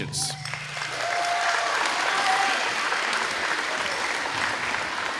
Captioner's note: crowd applauding